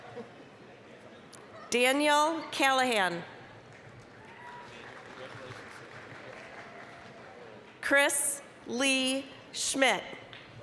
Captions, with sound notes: Daniel Callahan. (applause) Chris Lee Schmitt.